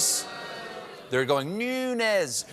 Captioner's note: booing